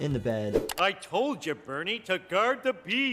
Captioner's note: clicking